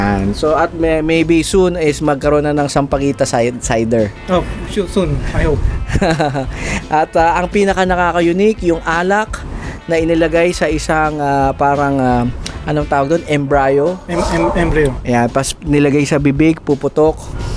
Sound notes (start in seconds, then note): 5.9 laughs